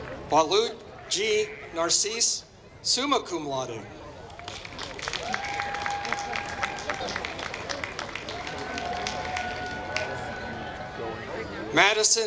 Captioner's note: applause